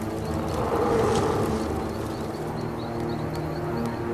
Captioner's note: creature howling